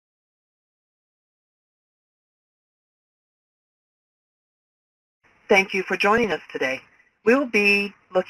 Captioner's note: silence